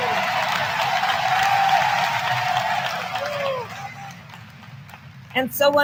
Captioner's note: applause